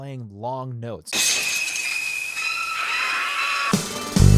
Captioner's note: drill whirring; upbeat music